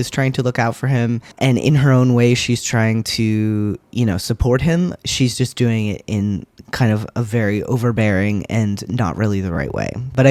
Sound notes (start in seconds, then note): none